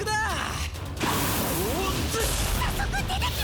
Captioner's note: sound of flames blowing out